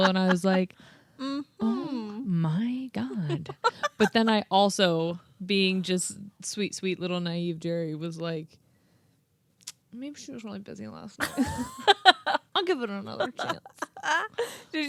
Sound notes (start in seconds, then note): 3.1 laughing